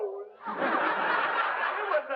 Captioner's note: laughter